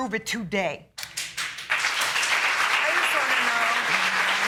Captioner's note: audience clapping